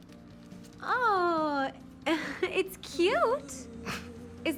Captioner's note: chuckling